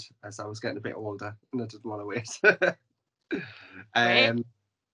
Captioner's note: laughs